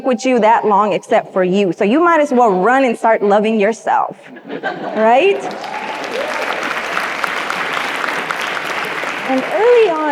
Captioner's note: audience laughs; audience applauds